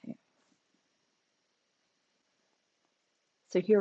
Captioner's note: silence